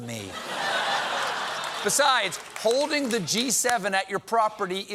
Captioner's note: laughter